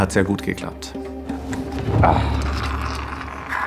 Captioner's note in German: Sauggeräusch; Tiefer Seufzer